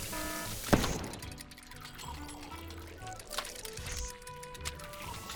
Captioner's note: alarm blaring; cupcake exploding